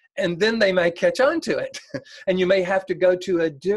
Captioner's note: laughs